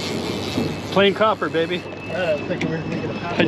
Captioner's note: reel cranking